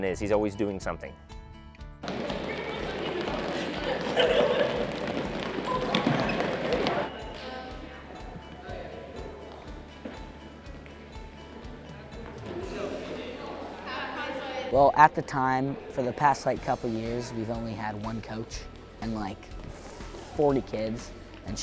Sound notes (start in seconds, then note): 3.1 running and gym sounds